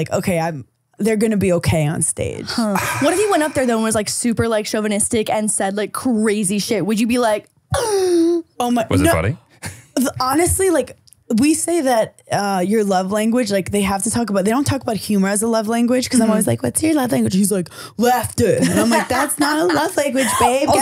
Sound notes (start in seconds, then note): 8.0 gasping